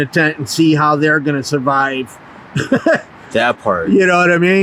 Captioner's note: laughs